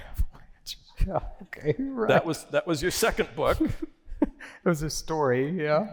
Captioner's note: laughter